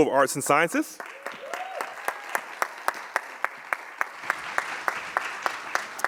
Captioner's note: audience claps and cheers